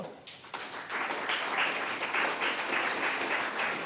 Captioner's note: applause